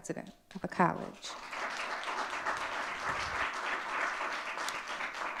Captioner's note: audience clapping